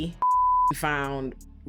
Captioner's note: beep